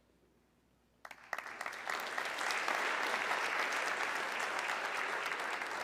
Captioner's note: audience clapping